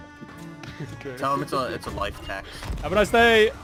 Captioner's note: giggling